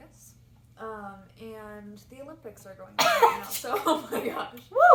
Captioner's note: coughs aggressively